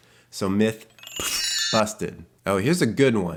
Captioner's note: chimes ringing